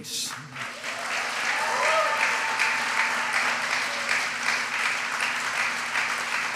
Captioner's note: applause